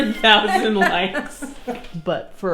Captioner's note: laughing